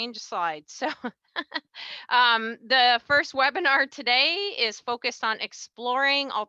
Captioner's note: laughs